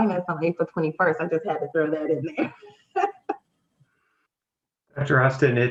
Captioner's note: laughs